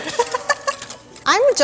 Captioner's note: laughing